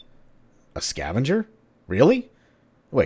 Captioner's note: intercom